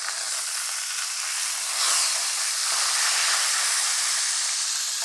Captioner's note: chicken breast sizzling